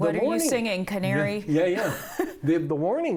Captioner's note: laughter